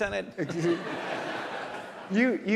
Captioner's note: audience laughs